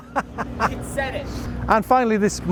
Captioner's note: laughing